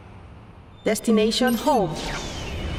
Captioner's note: robot voice